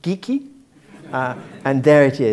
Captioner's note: laugh